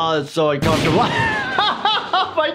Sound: booming sound

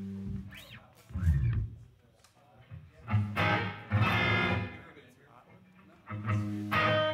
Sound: background Chatter

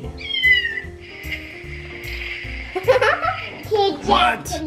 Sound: card meowing

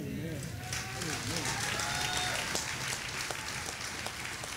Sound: audience applauding

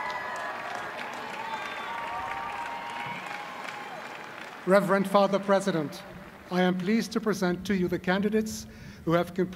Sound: cheers and applause

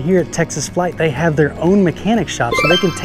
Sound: label twinkling

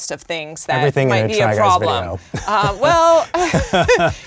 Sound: laughs

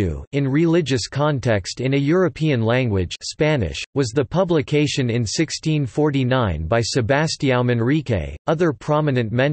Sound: Spanish

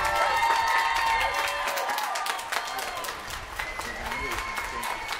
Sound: applause

